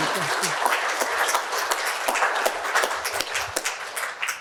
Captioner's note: applause